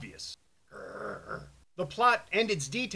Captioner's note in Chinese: 咆哮